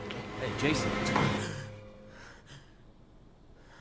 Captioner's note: gasps, pants